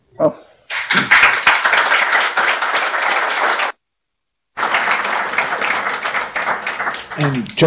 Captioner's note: applause